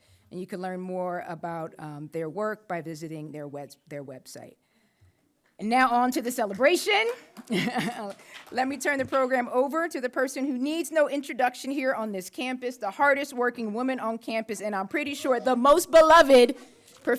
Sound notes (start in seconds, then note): 7.4 laughs